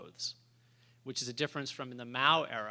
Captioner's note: none